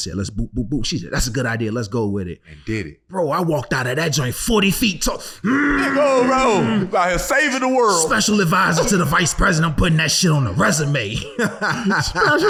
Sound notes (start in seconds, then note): 5.4 grunting